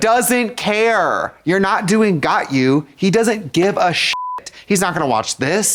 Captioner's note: beep